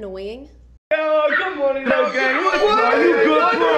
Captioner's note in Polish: dzikie dźwięki Logana Paula i spółki